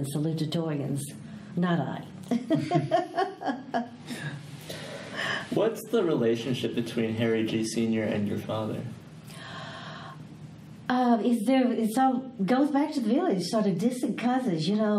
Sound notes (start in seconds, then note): 2.3 all laugh